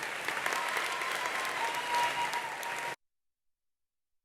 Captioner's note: attendees applauding; attendees cheering